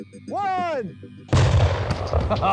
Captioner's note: explosion